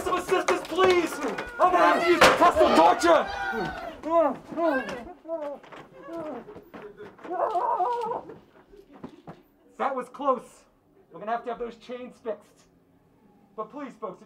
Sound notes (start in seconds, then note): 4.0 gorilla whining